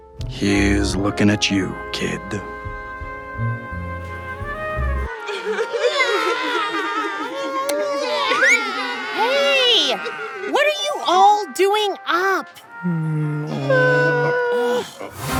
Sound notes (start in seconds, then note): 3.3 music swells; 5.7 Crying in Derp-lish; 5.7 lights click on